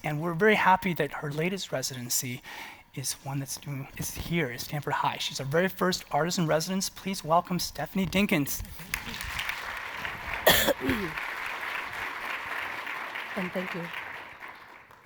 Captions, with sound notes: and we're very happy that her latest residency is one that is here at Stanford High. She's our very first artisan residence, please welcome Stephanie Dinkins. (applause) - Thank you.